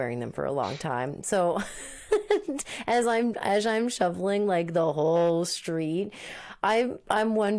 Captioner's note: laughing